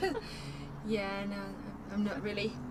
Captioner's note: laughing